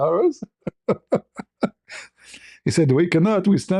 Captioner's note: ketawa